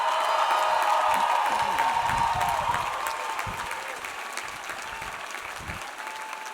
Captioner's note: audience applauds; audience cheers